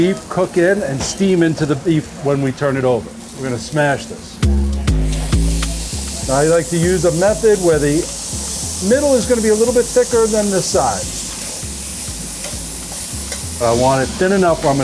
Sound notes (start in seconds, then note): 5.0 meat sizzling; 5.0 upbeat music; 11.4 meat sizzling